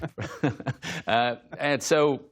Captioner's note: laughter